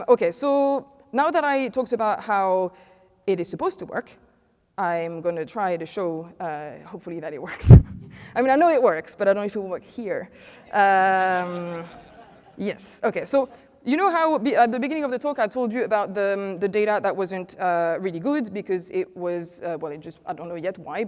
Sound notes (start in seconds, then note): 11.3 laughter